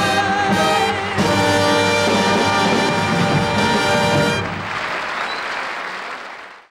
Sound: audience applauding

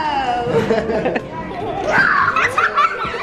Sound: laughing

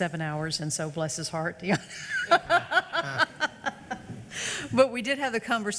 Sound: laughs

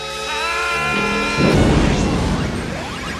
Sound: explosion

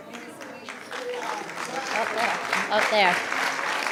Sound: clapping

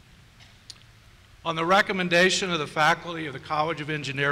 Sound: voiceover

